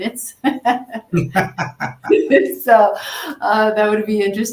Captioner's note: laughter